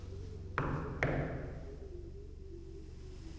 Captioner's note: knocks